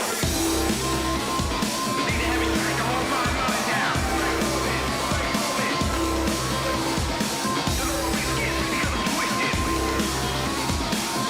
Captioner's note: crowd cheering